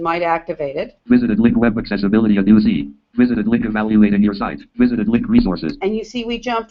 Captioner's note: JAWS speaking